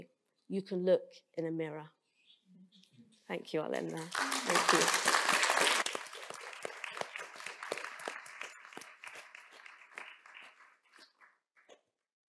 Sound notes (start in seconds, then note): 3.8 applause